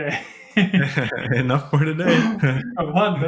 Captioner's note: laughter